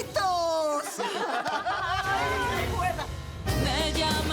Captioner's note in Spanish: Carcajadas